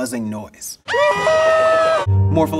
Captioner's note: SpongeBob and Patrick screaming